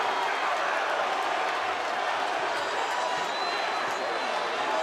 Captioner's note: audience cheering